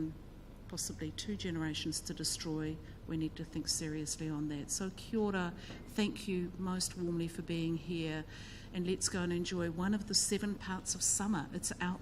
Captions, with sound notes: possibly two generations to destroy, we need to think seriously on that. So (speaks in foreign language) most warmly for being here and lets go and enjoy one of the seven parts of summer that's our